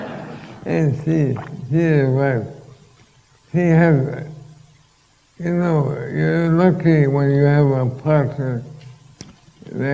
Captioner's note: laughter